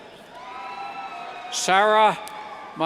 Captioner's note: cheers